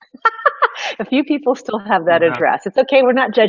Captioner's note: laughing